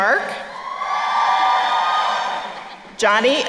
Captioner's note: crowd cheering